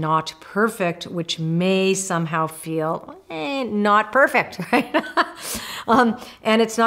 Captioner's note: laughs